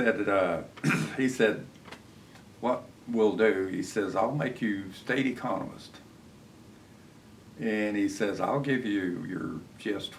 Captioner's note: laughs